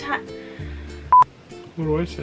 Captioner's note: beep